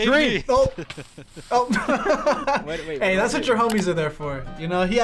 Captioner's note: laughs